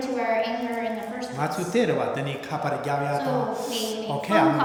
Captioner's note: speaking tibetan